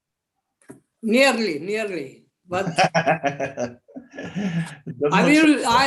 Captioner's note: laughter